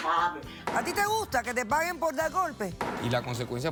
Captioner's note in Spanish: golpes